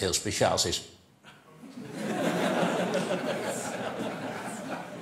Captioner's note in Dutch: gelach